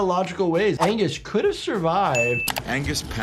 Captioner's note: bell ringing